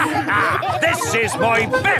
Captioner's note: all laughing